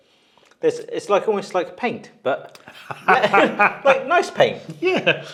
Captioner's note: laughs